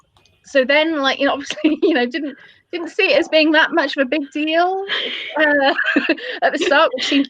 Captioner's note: laughter